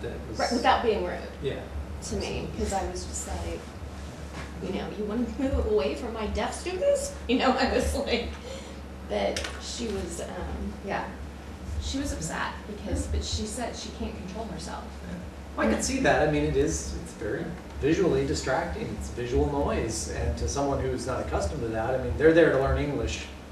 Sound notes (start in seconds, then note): 7.2 laughter